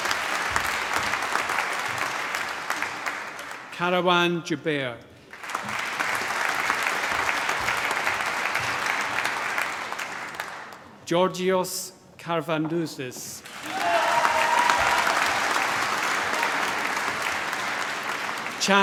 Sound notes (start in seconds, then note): 0.0 applause; 5.2 applause; 13.4 cheering, applause